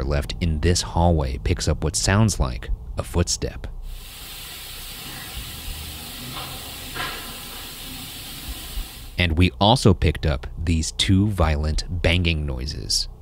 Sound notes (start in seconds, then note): 6.3 footsteps shuffling